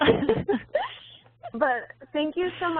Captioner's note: laughing